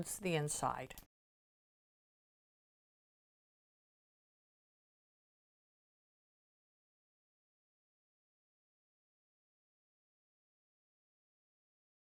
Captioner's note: no Sound Present